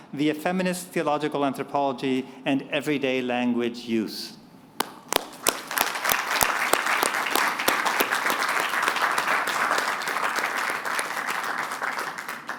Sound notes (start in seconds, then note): 5.8 applause